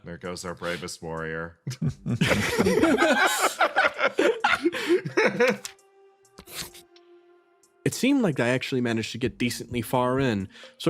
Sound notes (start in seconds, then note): 1.7 laughs